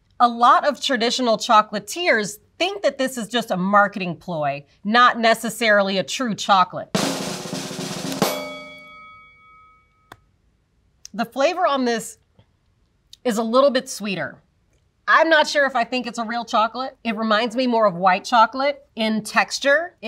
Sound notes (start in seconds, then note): 6.9 drum roll; 8.2 bell dings